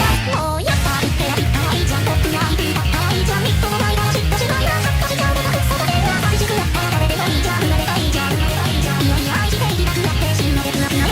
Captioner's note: drools